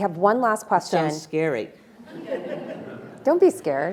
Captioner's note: attendees laughing